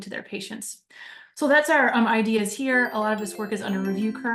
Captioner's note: electronic tones